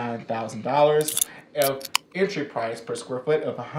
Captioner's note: can opening